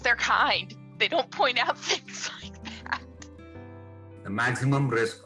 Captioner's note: chuckles